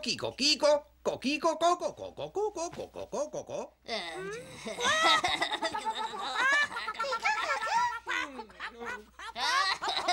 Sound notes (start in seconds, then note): 4.1 laughing